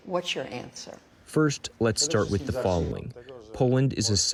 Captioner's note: through translator